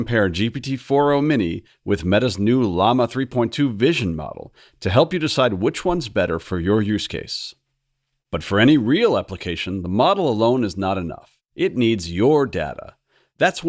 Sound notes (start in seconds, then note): none